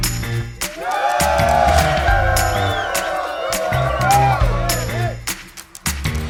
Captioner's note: cheers